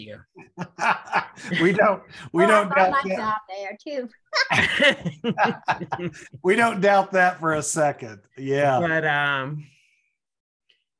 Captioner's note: laughter